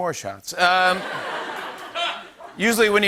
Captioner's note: laughter